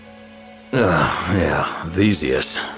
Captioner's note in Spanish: Theseus, cansado